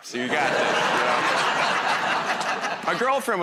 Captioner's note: laughter